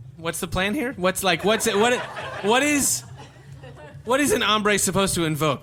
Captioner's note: audience laughter